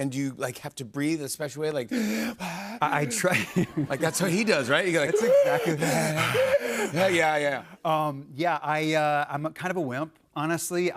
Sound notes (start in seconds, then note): 5.1 both gasping